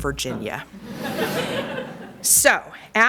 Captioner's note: laughter